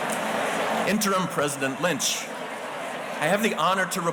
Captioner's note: audience chattering